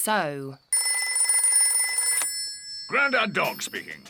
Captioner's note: rings